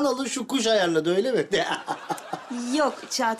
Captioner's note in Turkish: Gülme sesi